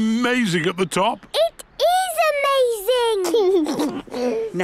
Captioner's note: George giggles